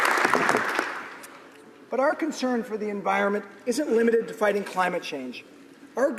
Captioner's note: applause